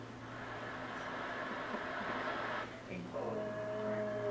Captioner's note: soft growling